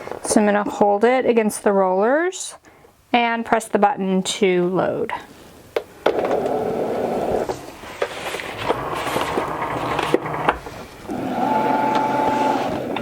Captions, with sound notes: So I'm going to hold it against the rollers and press the button to load. (machine buzzing)